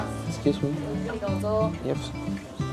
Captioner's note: speak Japanese